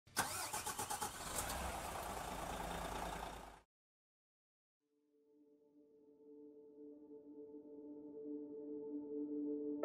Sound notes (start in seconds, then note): 0.1 car engine starting; 5.2 slow music